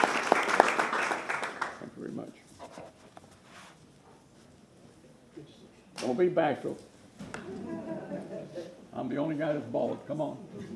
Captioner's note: applause